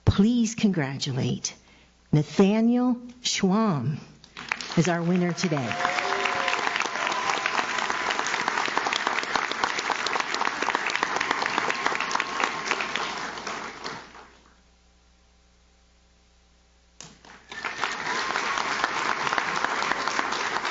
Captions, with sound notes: Please congratulate Nathaniel Schwamm as our winner today. (audience cheers) (audience claps) (audience claps)